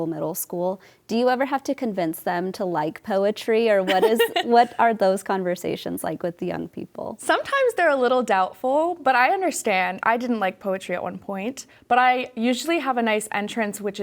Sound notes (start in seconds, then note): 3.8 chuckling